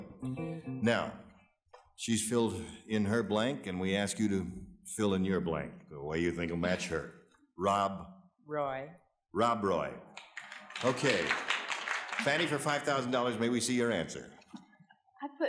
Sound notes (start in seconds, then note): 10.2 audience applause